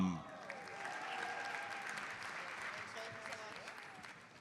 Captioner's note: audience applauds